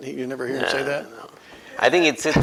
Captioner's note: laughs